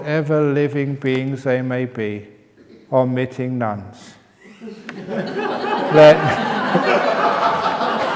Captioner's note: laughter